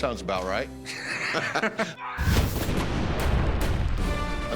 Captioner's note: laughter